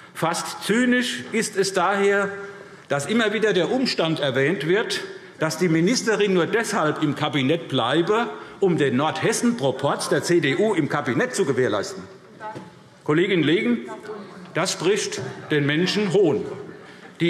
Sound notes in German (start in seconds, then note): none